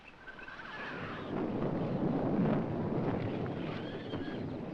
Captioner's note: thunder rumbling